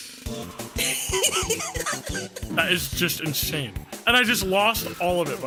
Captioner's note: laughs